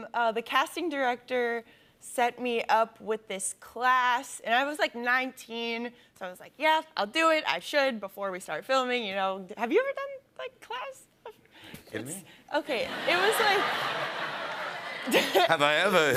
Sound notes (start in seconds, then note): 12.7 laughter